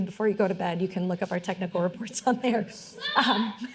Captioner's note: laughing